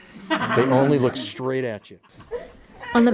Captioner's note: laughter